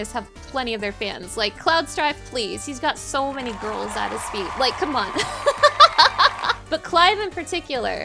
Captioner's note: laughing